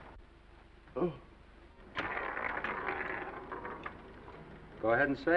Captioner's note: dice clattering